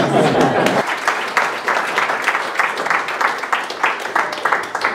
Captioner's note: oklaski